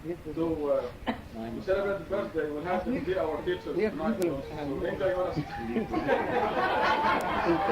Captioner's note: crowd talking; crowd laughing